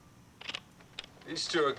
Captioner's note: slide projector clicking